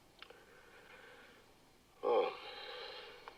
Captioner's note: screaming